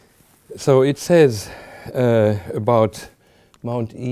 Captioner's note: none